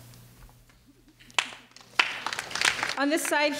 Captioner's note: clapping